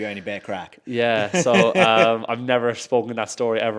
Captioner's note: host laughs